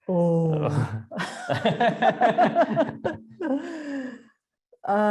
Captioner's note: both laughing